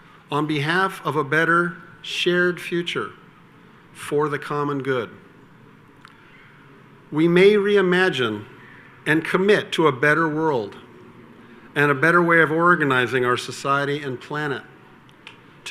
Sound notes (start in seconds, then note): none